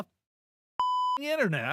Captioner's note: beep